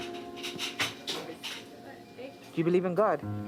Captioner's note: indistinct chatter